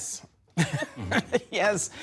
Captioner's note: laughter